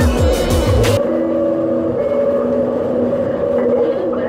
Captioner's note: Skytrain Announcement Chime